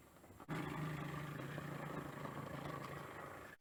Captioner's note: purrs like a plane